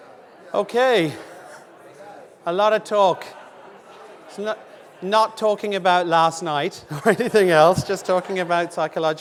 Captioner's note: audience murmuring